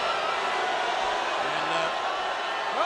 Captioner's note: crowd boos